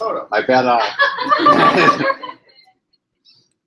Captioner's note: laughter